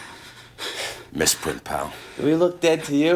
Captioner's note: chuckles